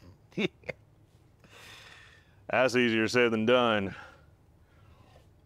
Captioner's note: laughing